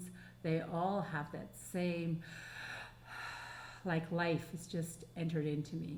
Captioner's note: breathing